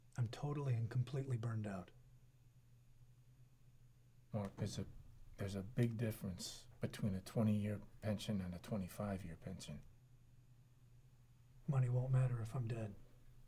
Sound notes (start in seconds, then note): none